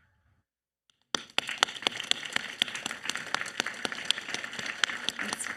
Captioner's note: audience applauding